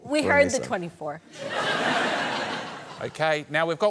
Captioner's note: laughter